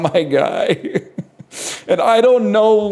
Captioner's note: chuckles